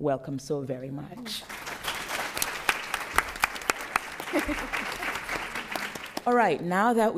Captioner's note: applause